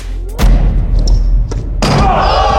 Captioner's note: ball bouncing; dunk sound